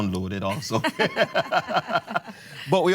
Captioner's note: laughter